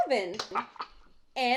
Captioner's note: clap; Grandpa chortes